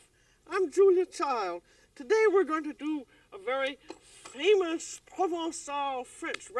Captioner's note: french